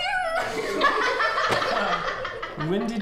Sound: laughter

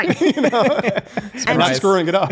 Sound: laughter

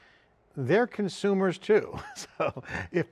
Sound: chuckles

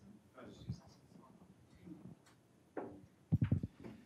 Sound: speaking faintly

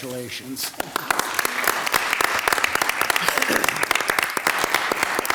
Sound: audience claps

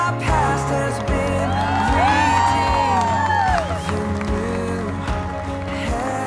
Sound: applause

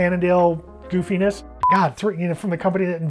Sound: timer beeping

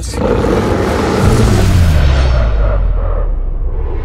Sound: roaring

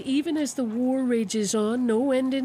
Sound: speaking alternate language

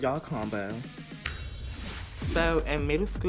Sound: snaps

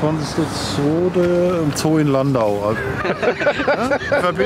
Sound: laughter

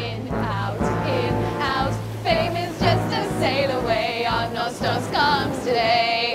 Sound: waves crashing

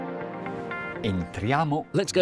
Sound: speaking in Italian

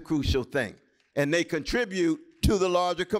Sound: applause

